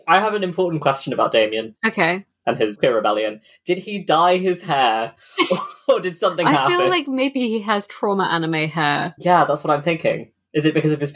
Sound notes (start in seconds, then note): 5.4 laughs